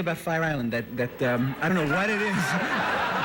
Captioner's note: laughter